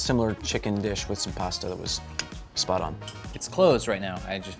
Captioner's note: clicking tongue